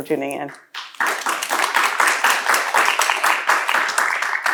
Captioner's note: applause